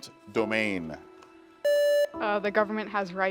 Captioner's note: buzzer beeps